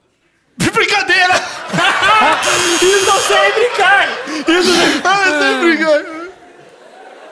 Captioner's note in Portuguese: campainha